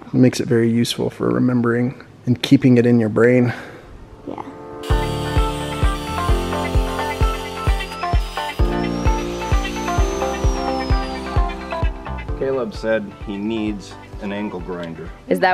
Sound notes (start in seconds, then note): 4.8 saw buzzing